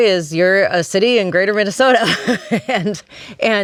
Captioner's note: laughs